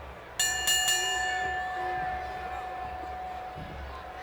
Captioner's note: bell rings